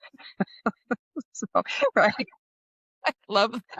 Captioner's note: laughs